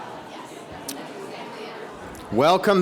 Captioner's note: speaks faintly